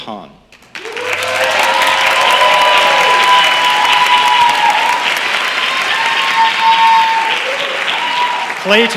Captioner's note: applause